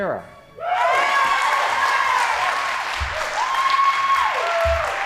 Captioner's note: audience applauding